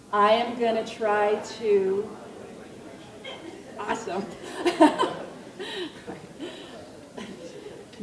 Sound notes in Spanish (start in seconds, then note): 4.3 Risas